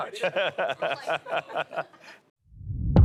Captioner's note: laughs